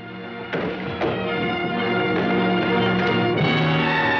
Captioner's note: crash